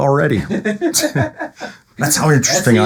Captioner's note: laughing